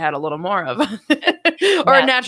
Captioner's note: laughing